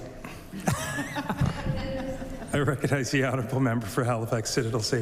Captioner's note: laughter